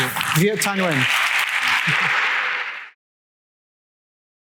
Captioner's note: applause